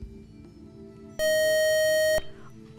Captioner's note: buzzer